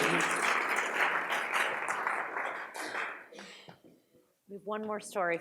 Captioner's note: audience applauds